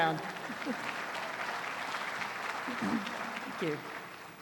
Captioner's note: applause continues